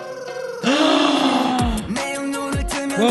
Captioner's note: gasp